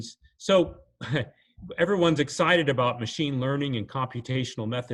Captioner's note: chuckles